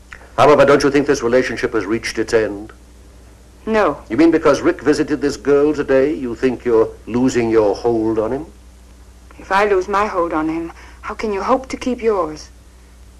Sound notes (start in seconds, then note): none